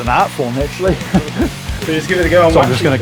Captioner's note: chuckles